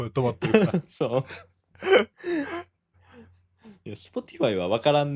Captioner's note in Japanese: 息をのむ音